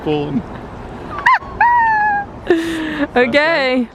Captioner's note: both laugh